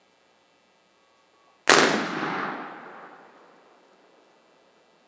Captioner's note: gunshot